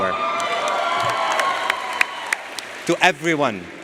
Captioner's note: audience cheers and applauds